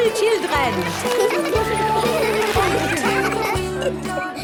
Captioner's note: laughter; giggling